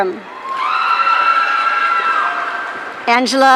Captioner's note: audience cheering